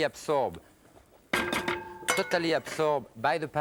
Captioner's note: utensil clinks